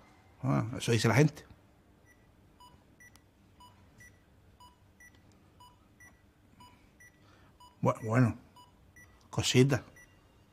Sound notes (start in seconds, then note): 4.0 beeping